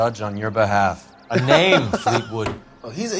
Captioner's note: laughs